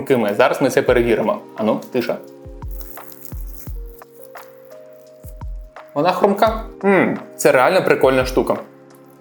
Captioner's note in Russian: хруст картофеля